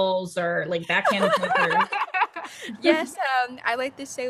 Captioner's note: Saniyya and Demi laughing